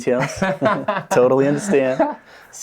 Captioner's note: laughing